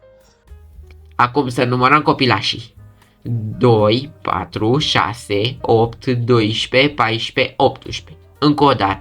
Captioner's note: counting